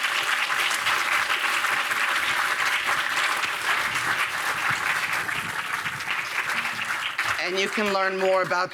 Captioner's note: applause